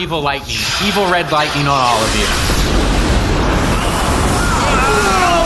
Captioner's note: lightning strikes; everyone groans